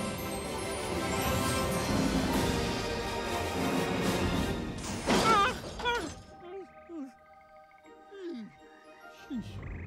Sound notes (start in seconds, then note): 4.1 gasping, Crying Out